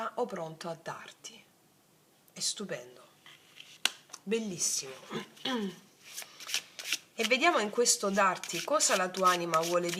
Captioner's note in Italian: schiarire la voce